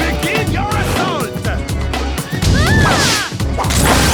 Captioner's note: crowd gasping